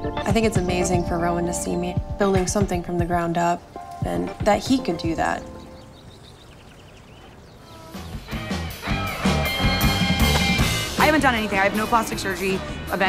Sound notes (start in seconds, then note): 7.0 birds chirping; 8.0 upbeat music